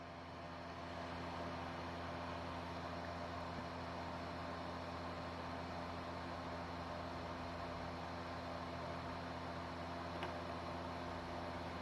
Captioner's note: laptop dvd drive spinning